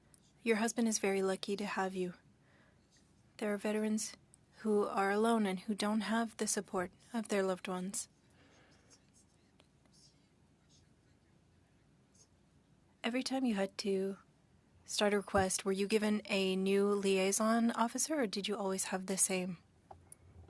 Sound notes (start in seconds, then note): 1.9 speaking French